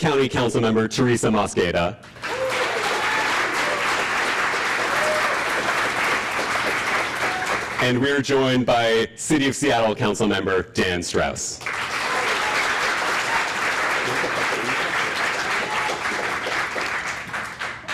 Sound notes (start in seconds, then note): 2.0 applause; 11.5 applause